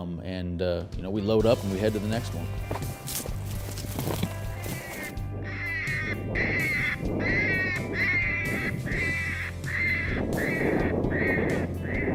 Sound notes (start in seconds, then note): 5.8 coyote call; 5.9 wind blowing